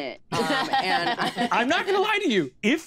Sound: laughter

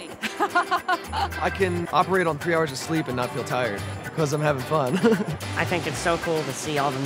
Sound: laughs; laughs

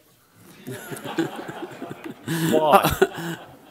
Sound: chuckling

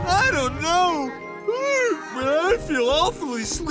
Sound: yawning

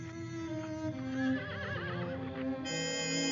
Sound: melancholic theme playing; horse whinnying

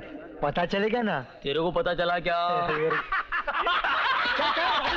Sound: laughs

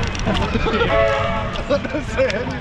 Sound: laughs

